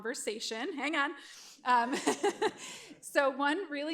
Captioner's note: laughs